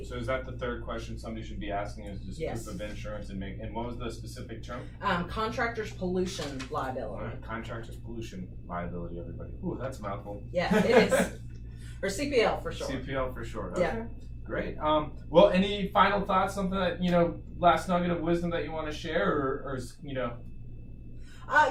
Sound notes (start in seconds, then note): 10.6 laughing